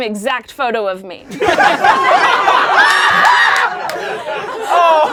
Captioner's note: laughing